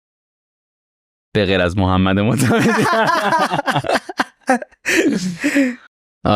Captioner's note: laughs